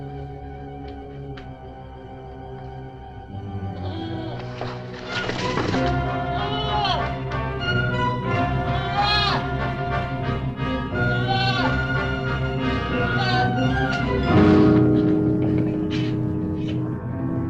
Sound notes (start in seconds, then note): 5.2 dramatic music; 5.2 goat bleating; 14.2 suspenseful music